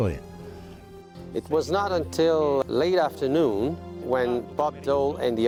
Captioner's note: voiceover